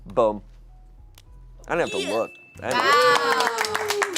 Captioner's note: bell dings; audience applauding